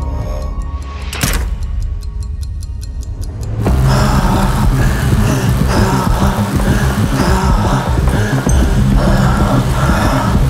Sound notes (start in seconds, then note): 0.1 boom resounds; 0.1 clock ticking; 3.7 heavy breathing; 4.2 calm electronic music